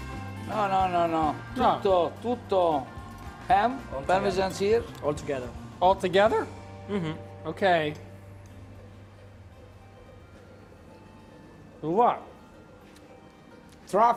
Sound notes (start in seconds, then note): 1.7 speaking in foreign language